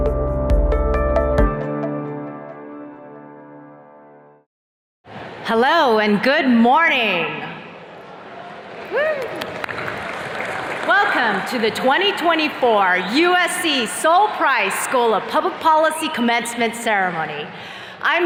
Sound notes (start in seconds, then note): 7.9 attendees cheers and claps